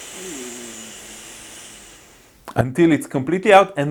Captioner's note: inhales deeply